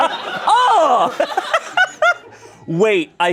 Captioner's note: everyone laughs